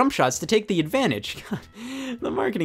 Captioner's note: sighs